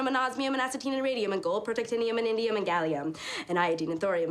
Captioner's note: gasps